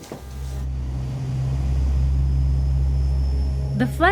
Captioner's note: airplane propellers